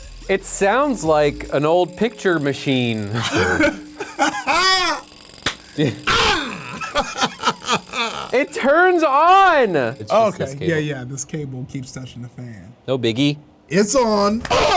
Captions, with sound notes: - It sounds like an old picture machine. (laughs loudly) - It turns on! - Okay. Yeah, yeah. This cable keeps touching the fan. - No biggie. - It's on.